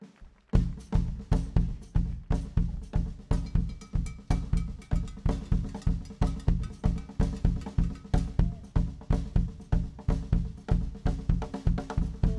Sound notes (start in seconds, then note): 0.6 drums beating; 3.4 cowbell clanking